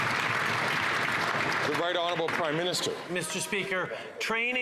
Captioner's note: some Applause